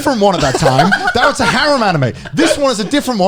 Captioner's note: laughing